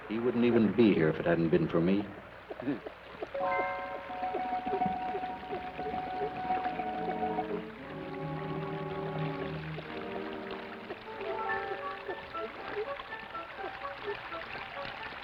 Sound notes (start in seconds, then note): 3.4 suspenseful orchestral music; 3.4 water trickles